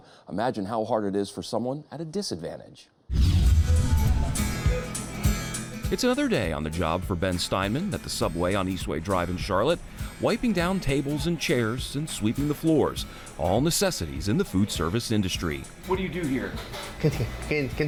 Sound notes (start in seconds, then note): 3.1 rapid whooshing; 3.3 upbeat music